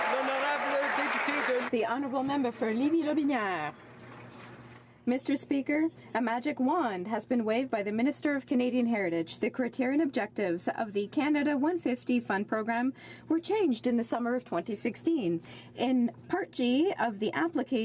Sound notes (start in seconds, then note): 2.5 some Applause